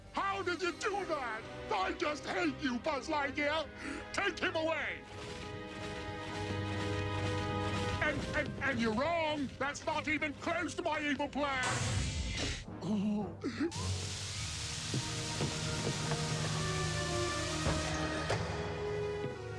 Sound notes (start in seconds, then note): 13.8 crackling